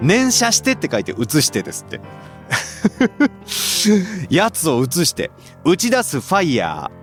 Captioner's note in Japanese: 笑い